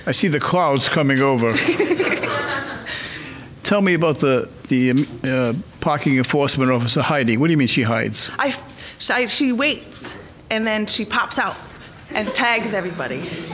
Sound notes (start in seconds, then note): 1.6 laughing